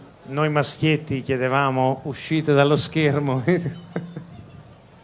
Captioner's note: laughs